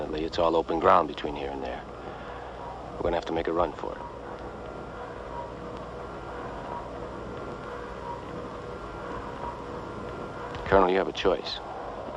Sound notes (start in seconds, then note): none